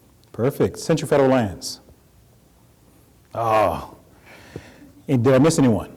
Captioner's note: grunt